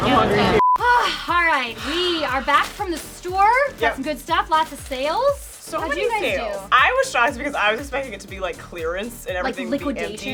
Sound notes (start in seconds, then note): 0.5 beep; 0.8 sighs